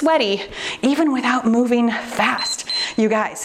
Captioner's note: timer beeps